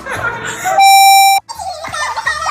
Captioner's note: computer beep; sped up chattering and laughing